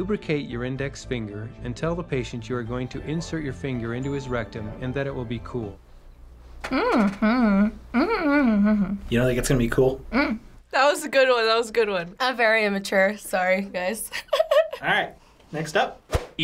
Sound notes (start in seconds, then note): 6.6 hums; 14.5 laughs